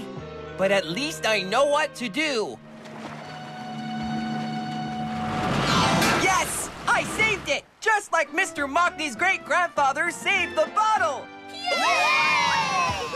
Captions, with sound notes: BUT AT LEAST I KNOW WHAT TO DO. ( Rumbling ) ( Clang! ) YES! I SAVED IT! JUST LIKE MR. MOCKNEY'S GREAT-GRANDFATHER SAVED THE BOTTLE. ( All Cheer )